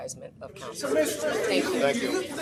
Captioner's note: overlapping chatter